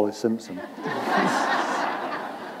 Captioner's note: laughter